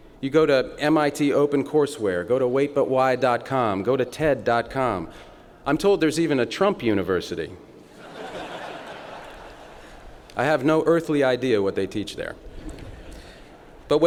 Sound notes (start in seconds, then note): 7.9 laughter